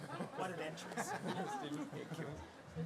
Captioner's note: laughter